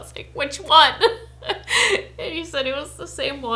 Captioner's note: laughing